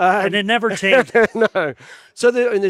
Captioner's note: laughs